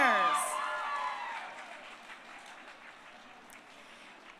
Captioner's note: crowd cheering